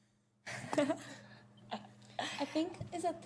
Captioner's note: laughter